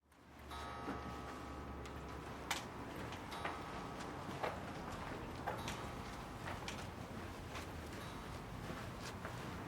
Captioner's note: grandfather Clock Chimes